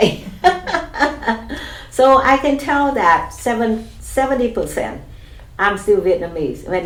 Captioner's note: laughs